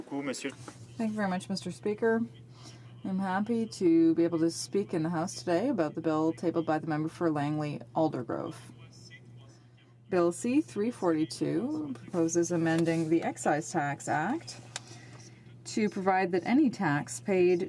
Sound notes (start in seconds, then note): 3.0 speaking french